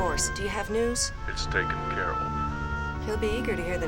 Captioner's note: voice On Phone